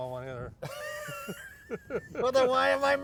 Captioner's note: laughs